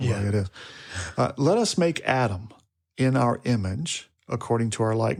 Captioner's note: speaker chuckles